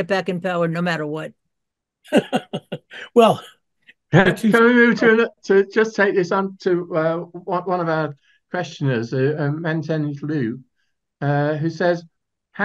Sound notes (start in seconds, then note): 2.1 laughs